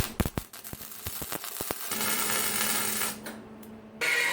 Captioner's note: welding sound